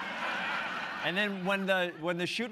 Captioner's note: laughter